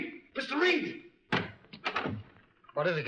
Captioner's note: door opens